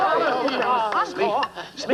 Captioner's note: ticking